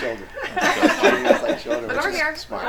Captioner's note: group laughing